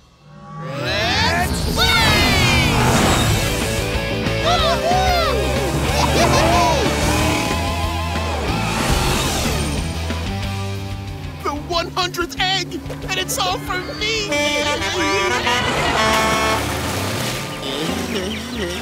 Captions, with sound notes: Let's Blaze! [cheering] The 100th egg and it's all for me!